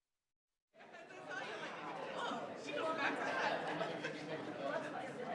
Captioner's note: people chattering